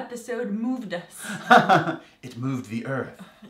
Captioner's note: laugh